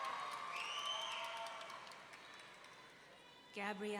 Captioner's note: audience cheering; audience member wolf-whistling